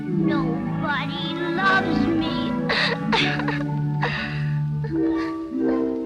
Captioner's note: crying; gentle music continues